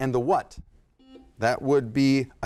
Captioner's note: buzzer blaring